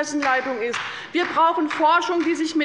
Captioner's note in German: Beifall